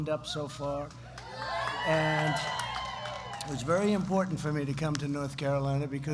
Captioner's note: applause